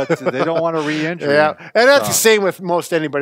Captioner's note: laughing